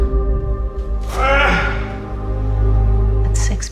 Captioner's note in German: Tony Stark schreit